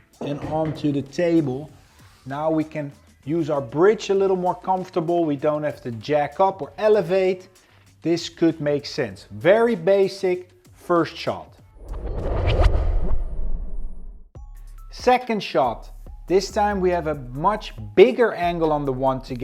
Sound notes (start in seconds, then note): 11.7 transition whooshing; 15.7 upbeat music